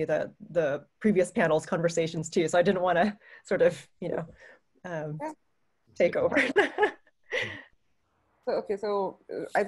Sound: laughter

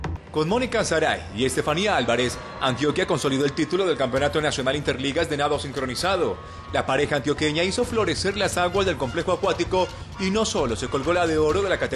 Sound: TV News Sound

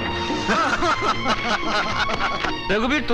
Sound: laughs

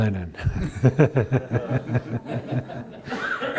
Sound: laughter

